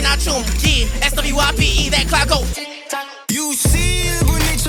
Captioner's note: Tick Tock